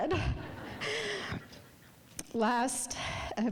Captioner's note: audience laughing